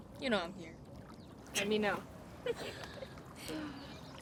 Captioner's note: giggling